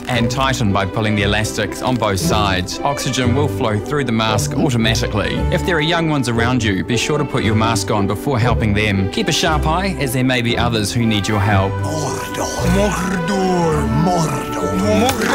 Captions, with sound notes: and tighten by pulling the elastics on both sides. Oxygen will flow through the mask automatically. If there are young ones around you, be sure to put your mask on before helping them. Keep a sharp eye, as there may be others who need your help. [over-enunciating] Mordor! Mordor! No, Mordor!